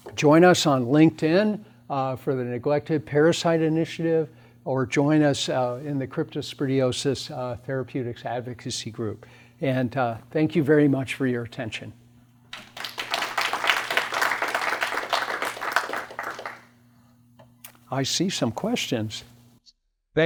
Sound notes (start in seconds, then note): 12.5 applause